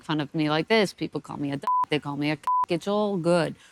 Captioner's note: beep